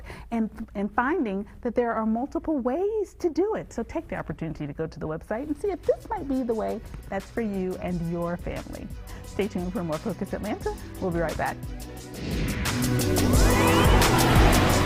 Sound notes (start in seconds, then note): 12.1 transition whooshing; 12.2 upbeat music